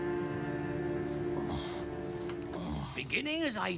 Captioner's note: whimpering